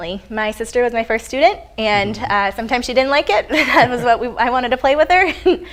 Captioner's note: laughs